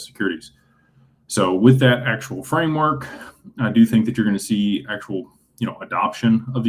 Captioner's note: clears throat